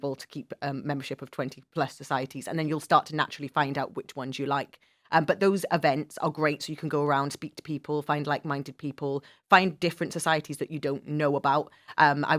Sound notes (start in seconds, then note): none